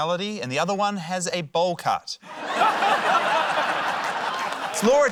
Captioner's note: laughter